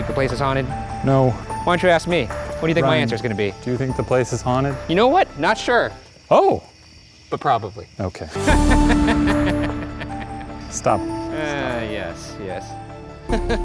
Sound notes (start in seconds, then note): 8.3 laughing; 13.2 laughing